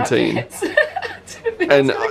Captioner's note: laughs and sobs